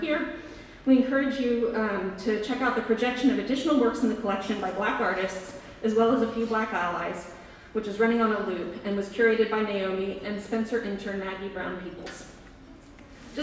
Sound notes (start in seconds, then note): none